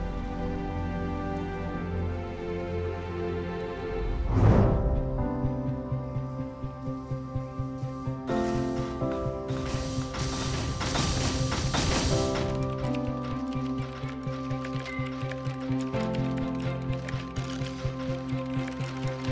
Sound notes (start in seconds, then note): 4.0 wind rushing; 5.4 light piano music; 12.0 keyboards clicking